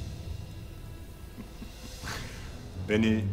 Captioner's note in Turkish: Vasilius gülme sesi